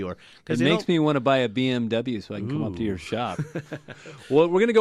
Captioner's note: both laugh